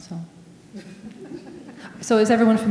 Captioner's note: audience laughing